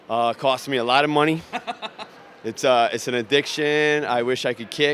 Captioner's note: laughs